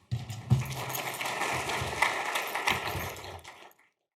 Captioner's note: audience clapping